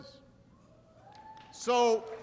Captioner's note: applause